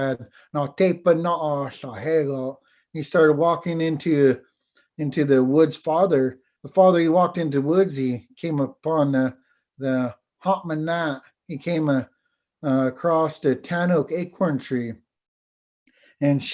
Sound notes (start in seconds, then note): 9.0 foreign language